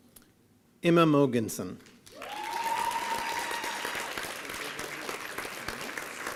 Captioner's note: applause and cheering